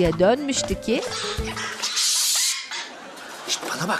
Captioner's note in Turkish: Papağan sesi